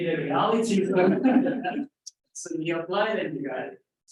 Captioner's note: audience laughs